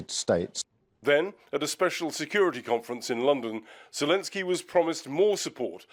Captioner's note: voice-over